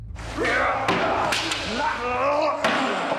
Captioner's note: all shouting